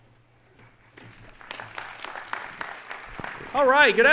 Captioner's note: audience applauding